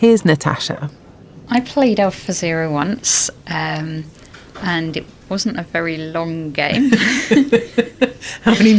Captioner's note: laughs